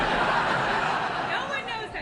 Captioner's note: laughter